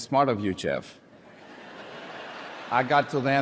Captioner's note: audience chuckles